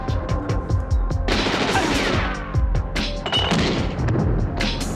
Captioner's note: gunshots ringing